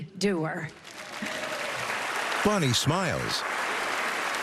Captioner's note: cheering and applause